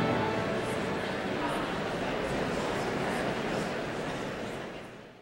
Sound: audience murmuring

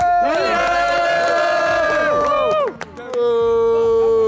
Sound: all cheering

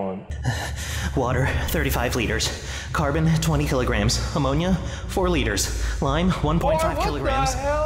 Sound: panicked gasps

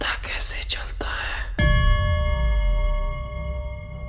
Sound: bell gongs

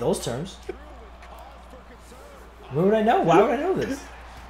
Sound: laugh

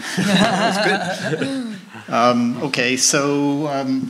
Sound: laughing

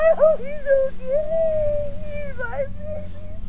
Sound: caller sobbing

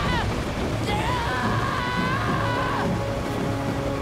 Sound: screaming

